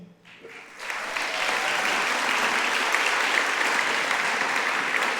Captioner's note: audience applauding